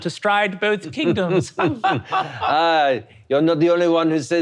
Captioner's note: laughing